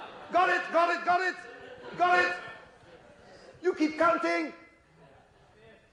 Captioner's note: crowd responds